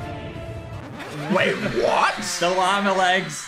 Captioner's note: intense mysterious music; record scratching